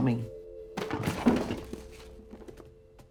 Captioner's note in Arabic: صوت تحطم